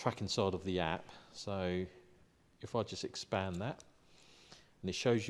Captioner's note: on phone